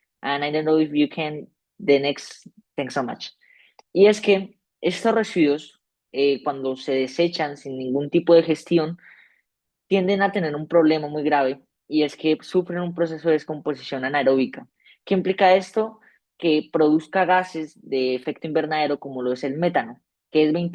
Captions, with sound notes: And I don't know if you can-- the next-- thanks so much. [SPEAKING SPANISH]